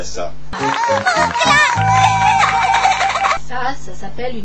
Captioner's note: laugh